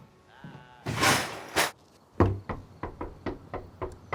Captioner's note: hand knocks